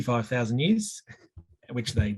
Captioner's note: chuckling